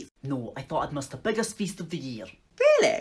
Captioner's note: sarcastic